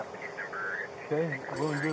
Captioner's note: radio chatter